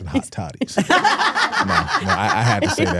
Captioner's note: hosts laughing